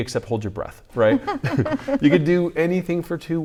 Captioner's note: laughs